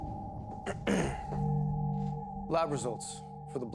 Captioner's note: Bailey clears Throat